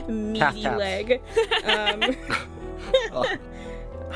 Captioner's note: laughter